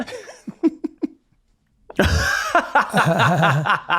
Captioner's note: laughing